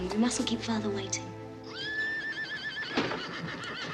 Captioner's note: horse whinnies